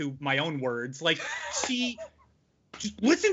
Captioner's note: laughing